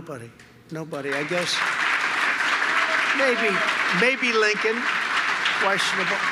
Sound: applause

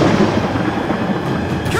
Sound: wind howling

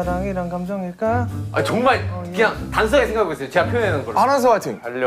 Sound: frustrated

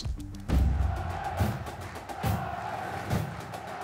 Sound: crowd chanting

